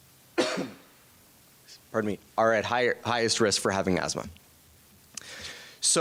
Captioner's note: coughs